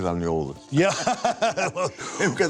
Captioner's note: laughs